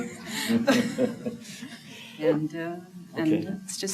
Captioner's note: laughter